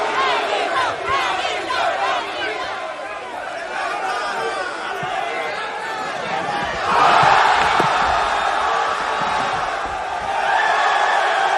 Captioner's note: shouting